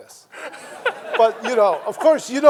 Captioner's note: everyone laughing